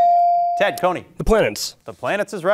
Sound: bell ringing

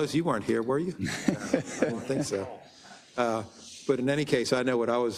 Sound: laugh

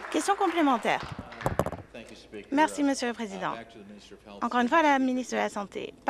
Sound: applause

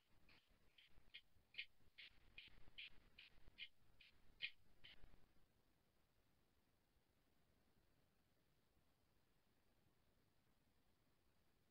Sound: silence

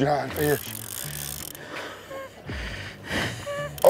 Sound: heavy breathing

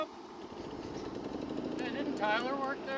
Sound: engine roars

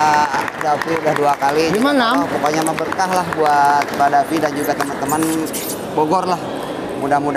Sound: applause

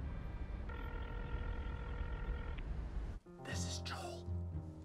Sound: phone ringing

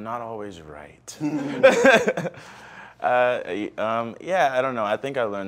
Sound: laughs

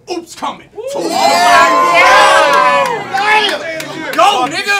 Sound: audience yells

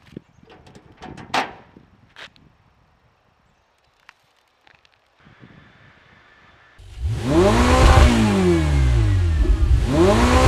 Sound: wind blowing; engine revving

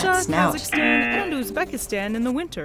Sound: buzzer rings

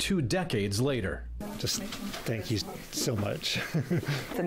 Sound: laughs

